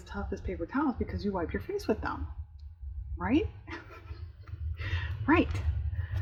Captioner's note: laughs